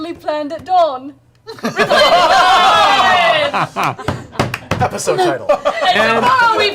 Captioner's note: laughter